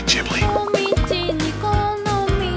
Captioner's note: cartoon running SFX